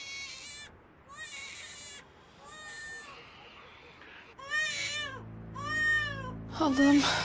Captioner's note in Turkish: Bebek ağlaması